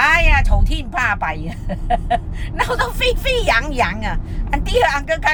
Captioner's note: Cantonese